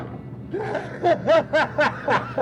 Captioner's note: laughter